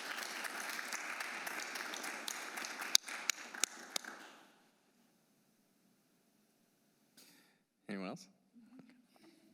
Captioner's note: applause